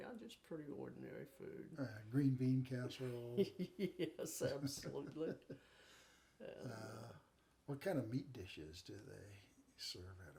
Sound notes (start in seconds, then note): 3.0 chuckling